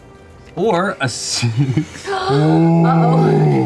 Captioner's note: laughs